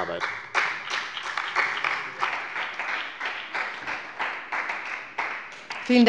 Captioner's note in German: Beifall bei dem BÜNDNIS 90/DIE GRÜNEN und der CDU